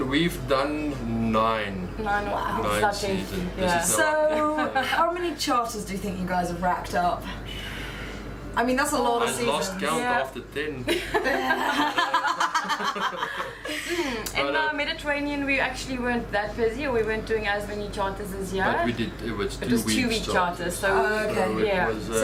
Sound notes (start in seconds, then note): 10.8 laughter